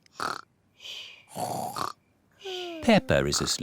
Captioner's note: snores